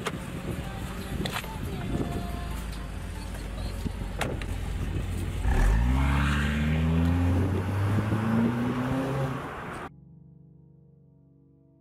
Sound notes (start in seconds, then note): 3.6 car door closes; 5.6 engine roars